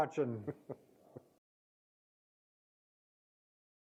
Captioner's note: chuckling